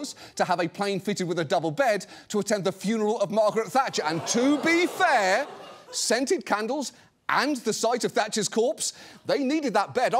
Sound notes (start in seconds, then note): 4.1 audience groans